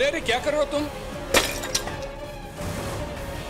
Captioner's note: flower pot breaks